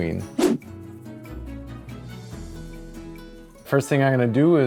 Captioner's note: upbeat music; woosh